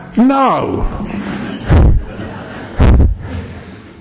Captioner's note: laughter